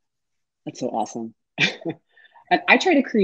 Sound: chuckles

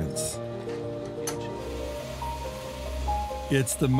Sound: soft piano music; steam blowing

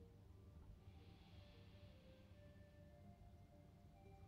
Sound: leader breathing

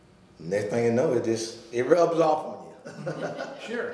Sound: laughing

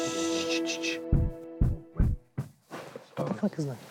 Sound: banging sound

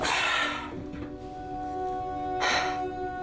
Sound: sighs

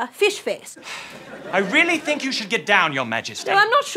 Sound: sighs

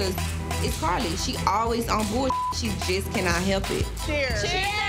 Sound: beep

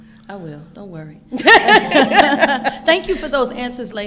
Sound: laughing

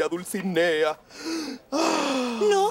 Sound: sighs longingly

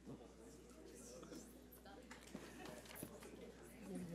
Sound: audience chatter

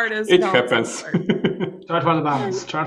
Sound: laughs

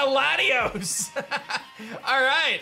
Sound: laughs

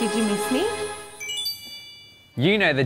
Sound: sparkles chime

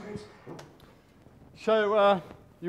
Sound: audience claps

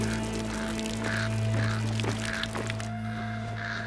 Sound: crows cawing

